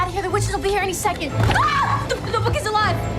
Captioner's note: screaming